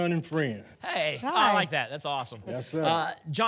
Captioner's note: none